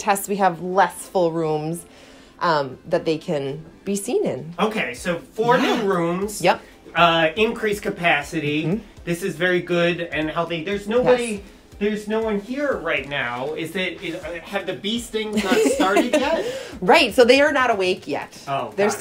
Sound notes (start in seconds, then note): 15.3 laughs